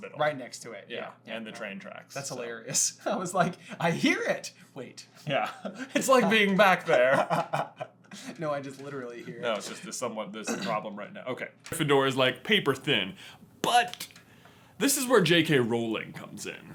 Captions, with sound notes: Right next to it. Yeah. And the train tracks. That's hilarious. I was like, I hear it! Wait. Yeah. It's like being back there. [laughter] No, I just literally hear it. No, it's just a somewhat problem right now. Okay. -Gryffindor is like, paper thin. But, this is where J.K Rowling comes in.